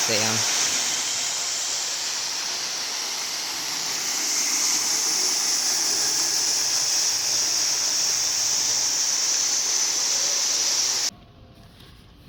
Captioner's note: sound of water fountain; quiet